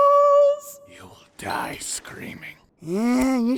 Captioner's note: whispering